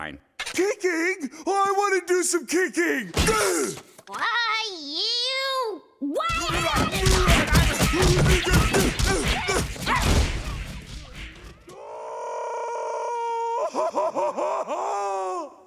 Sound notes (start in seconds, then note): 6.6 yelling insults; 11.7 Patrick screams in pain